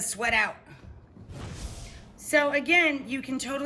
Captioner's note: whoosh